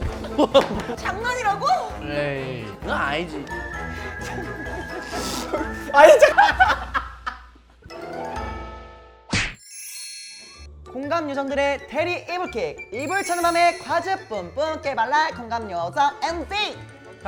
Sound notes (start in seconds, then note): 5.2 laughing